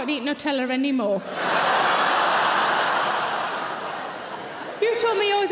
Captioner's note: audience cheering